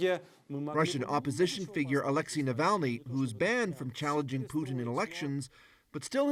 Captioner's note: speaking russian